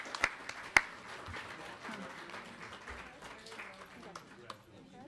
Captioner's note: people conversing